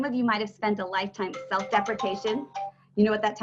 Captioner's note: phone ringing